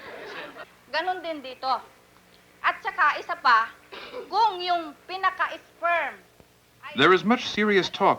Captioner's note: laughter; speaking Filipino